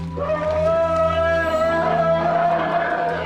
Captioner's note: rumbling